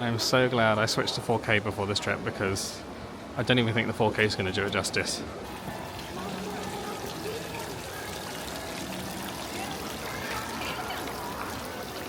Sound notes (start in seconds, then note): 8.3 water trickling